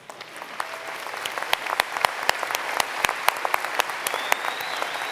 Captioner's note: applause